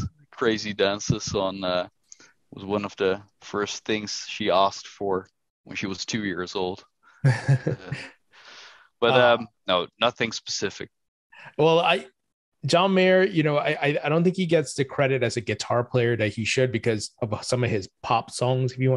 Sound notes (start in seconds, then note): 7.2 laughter